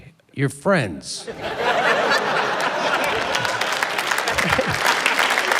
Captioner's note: laughter, applause